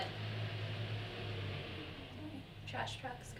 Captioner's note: vehicle engine roars